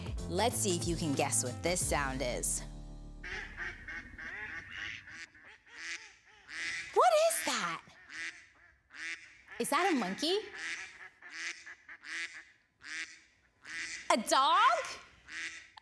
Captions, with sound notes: Let's see if you can guess what this sound is. (ducks quacking) What is that? Is that a monkey? A dog?